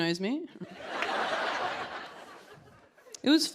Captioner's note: laughter